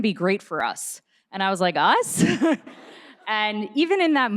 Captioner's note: laughs